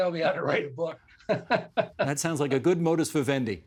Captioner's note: laughing